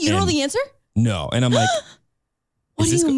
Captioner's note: gasping